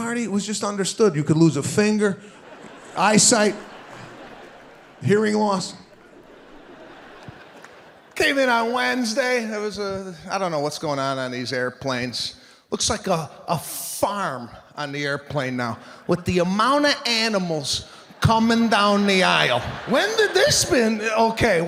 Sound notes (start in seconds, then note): 3.9 audience laughing